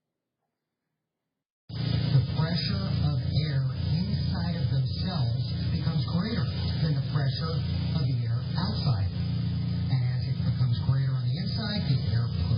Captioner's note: "21Alive News at 4" plays in background